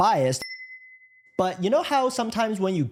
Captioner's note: bell dings